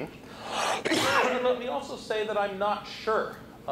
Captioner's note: coughs